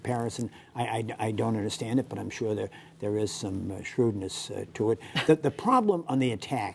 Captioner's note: laughter